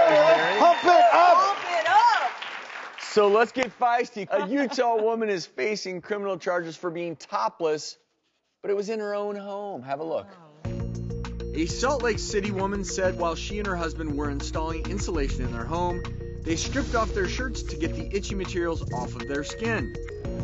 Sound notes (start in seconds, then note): 0.0 cheering; 4.2 laughing; 10.7 mysterious music